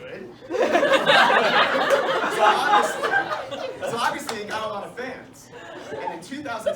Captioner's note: laughter